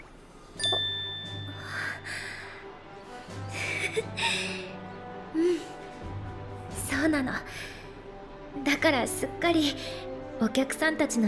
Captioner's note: laugh